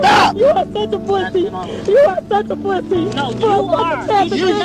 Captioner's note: crying